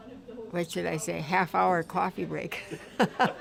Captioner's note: laughs